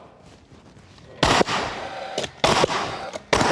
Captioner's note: nail gun sound